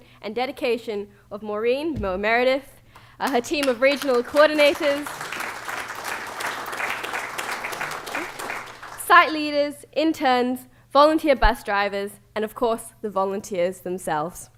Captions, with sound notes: and dedication of Maureen Meredith, her team of regional coordinators. [ Applause ] Site leaders, interns, volunteer bus drivers, and of course, the volunteers themselves.